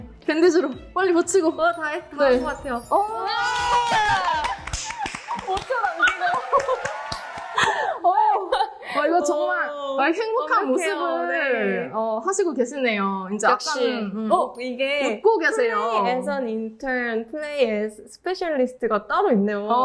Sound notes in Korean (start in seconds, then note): 4.0 박수